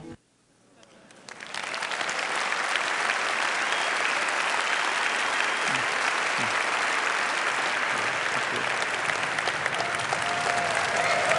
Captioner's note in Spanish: Aplausos